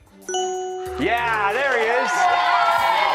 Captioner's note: cheers